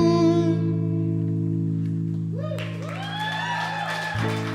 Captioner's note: cheers and applause